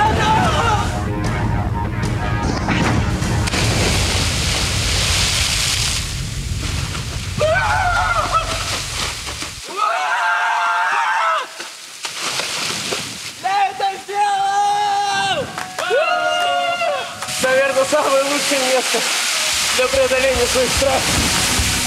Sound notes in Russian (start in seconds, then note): 6.7 радостные крики